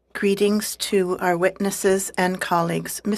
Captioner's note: speaking in French